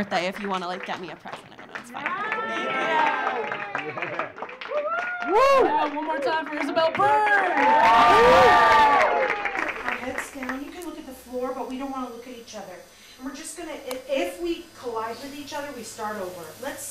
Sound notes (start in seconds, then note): 3.5 audience cheering; 7.5 audience cheering; 7.5 audience clapping